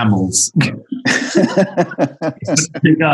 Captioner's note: laughter